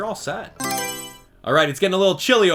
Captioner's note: Mario Selection Sound